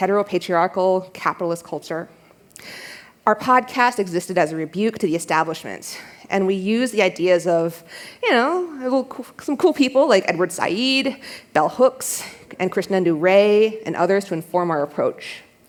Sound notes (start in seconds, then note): none